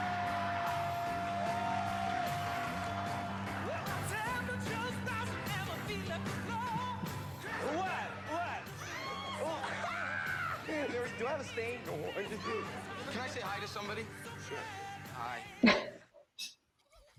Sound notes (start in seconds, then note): 8.7 screaming